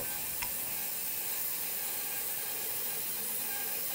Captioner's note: saw buzzing